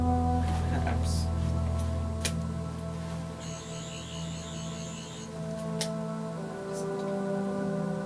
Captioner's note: Sonic screwdriver buzzing